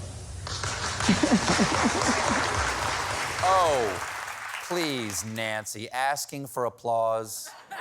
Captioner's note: applause